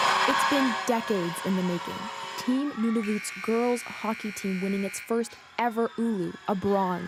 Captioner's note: cheers and Applause